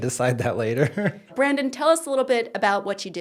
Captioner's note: laughing